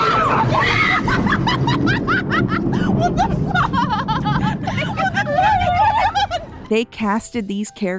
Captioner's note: loud thunderclap causes them all to start shrieking swearing and laughing